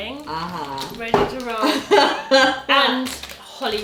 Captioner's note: laughs